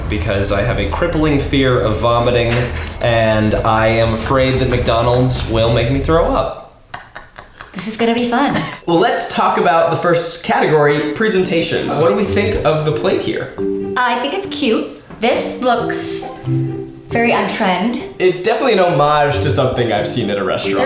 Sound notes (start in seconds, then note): 6.8 laughing